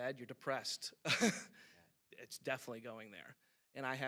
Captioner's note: chuckles